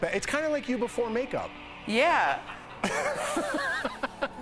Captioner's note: laughter